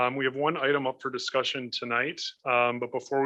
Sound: none

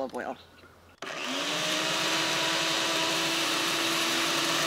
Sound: blender whirs

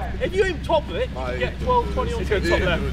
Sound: none

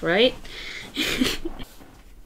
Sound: laughs

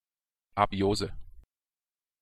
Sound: fast Pronunciation

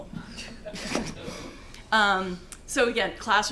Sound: laughing

